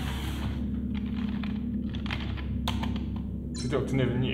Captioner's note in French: Bruit de clavier